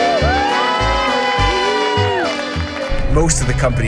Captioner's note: women cheer